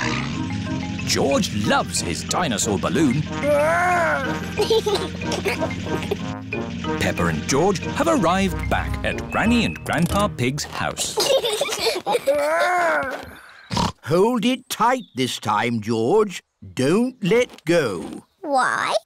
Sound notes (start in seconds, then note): 4.5 giggles; 11.1 both giggling; 13.6 snorts